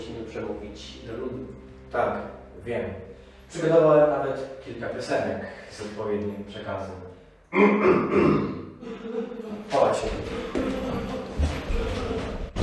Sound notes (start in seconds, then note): 7.5 elf clears his throat, in the background Santa's coughing